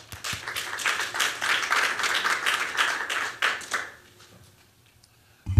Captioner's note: applause